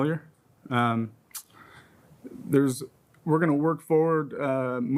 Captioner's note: clicks tongue